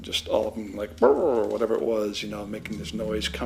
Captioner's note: growling